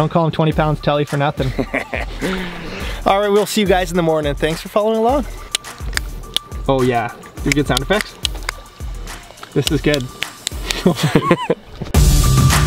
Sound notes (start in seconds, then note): 5.9 clicking; 10.6 laughs